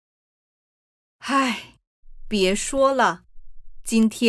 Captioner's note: sigh